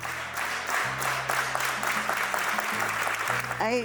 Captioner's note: applause